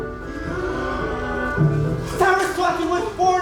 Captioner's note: the Players gasp